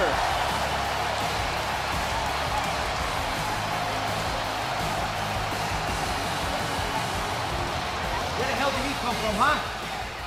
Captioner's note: crowd cheers